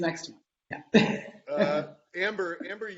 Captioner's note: laughing